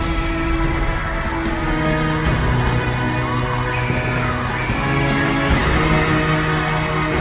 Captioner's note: cheering